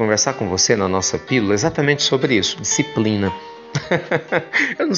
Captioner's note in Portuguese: risos